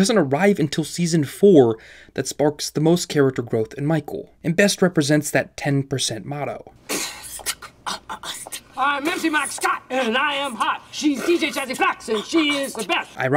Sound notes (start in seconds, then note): 6.7 beatboxing